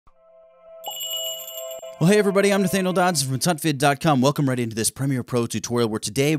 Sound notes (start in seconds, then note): 0.4 magical jingle